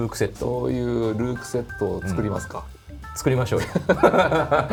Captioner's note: laughter